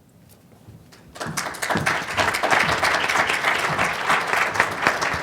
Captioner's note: applause